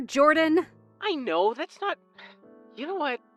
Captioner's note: phone vo